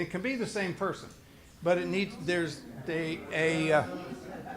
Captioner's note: group talking amongst themselves